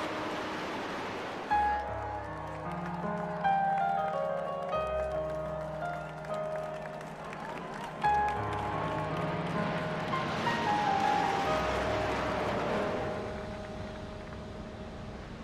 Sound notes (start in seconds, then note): 1.9 crowd clapping; 1.9 light mellow piano music; 9.1 planes rumbling